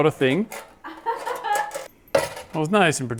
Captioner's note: laughing